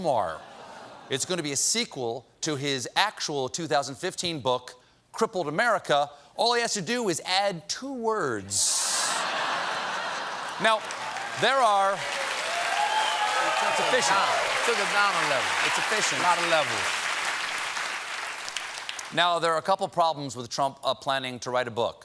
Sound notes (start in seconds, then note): 11.4 cheers and applause